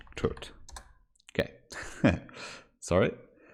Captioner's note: chuckles